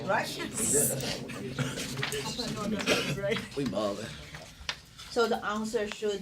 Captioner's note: students murmur